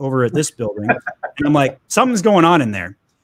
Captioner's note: laugh